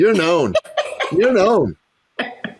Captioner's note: laughs